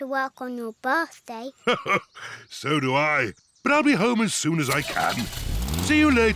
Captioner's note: chuckles